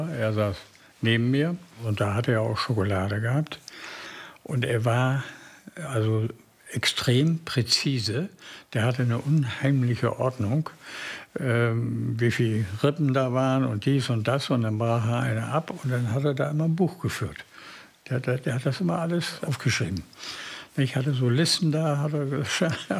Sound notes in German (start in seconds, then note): none